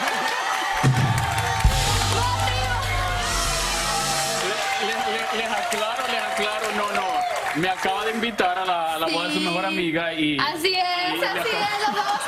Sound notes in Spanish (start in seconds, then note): 5.5 aplausos; 5.7 gritos